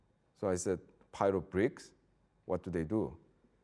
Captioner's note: none